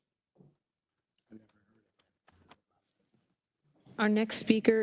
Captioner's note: quietly